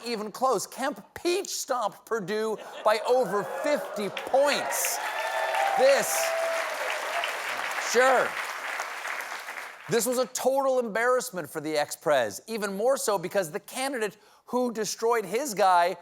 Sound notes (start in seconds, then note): 2.8 cheers and applause